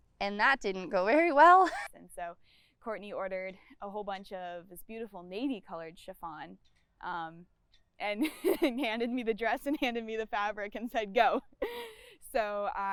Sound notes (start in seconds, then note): 11.5 laughs